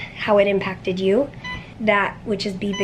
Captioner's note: IV pump beeping